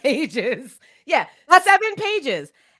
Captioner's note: laughs